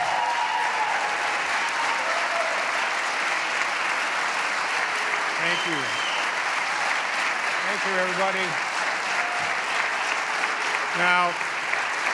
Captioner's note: applause